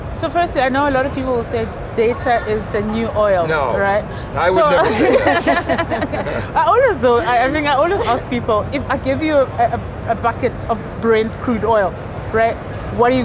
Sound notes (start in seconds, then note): 4.6 laugh